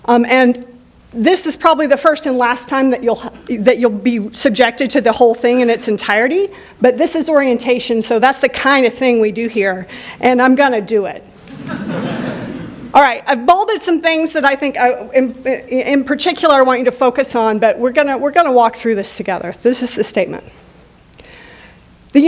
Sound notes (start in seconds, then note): 11.4 laughter